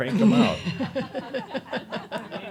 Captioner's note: she chuckles